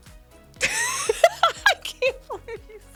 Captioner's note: laughing